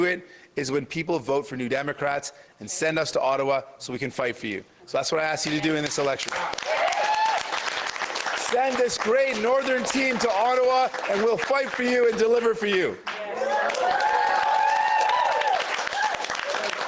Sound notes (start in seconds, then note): 12.9 applause